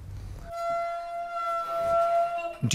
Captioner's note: hinges squeak